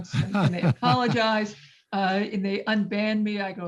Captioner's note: laughs